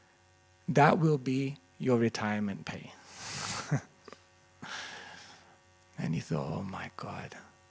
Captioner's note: laughter